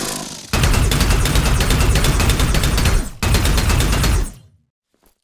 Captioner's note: laser gunfire zapping